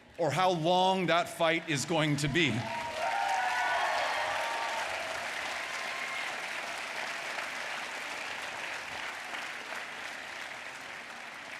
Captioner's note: applause